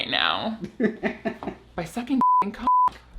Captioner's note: laughs